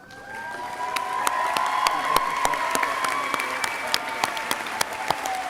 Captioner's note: crowd cheering and applauding